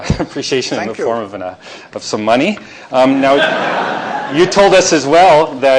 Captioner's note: chuckles; laughter